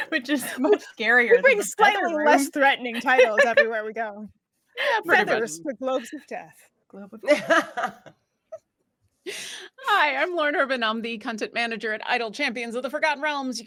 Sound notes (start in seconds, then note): 7.3 chuckles